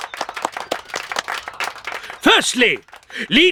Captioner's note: applause